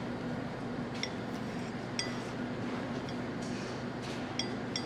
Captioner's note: glass clinking